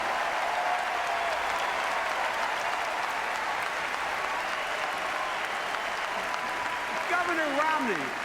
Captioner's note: applause